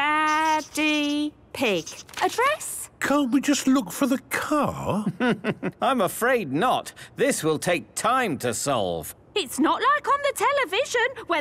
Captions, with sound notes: - Daa, Deee, Pig. Address? - Can't we just look for the car? - (chuckling) I'm afraid not! This will take time to solve. - It's not like on the television,